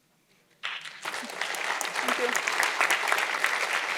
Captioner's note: audience applauding